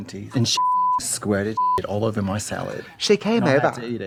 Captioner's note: beep